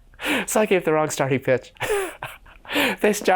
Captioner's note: he laughs